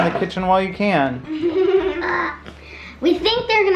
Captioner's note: giggling